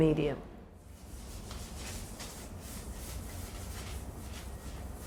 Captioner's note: paper scraping